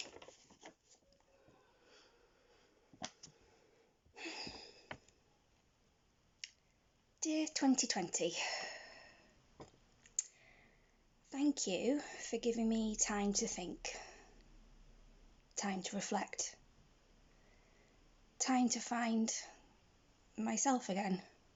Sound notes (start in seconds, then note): 0.0 paper crinckles; 4.1 sighs